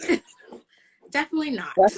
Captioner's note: laughing